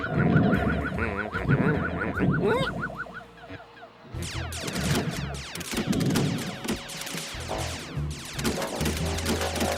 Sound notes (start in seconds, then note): 1.6 squeaks; 4.1 electronic blasting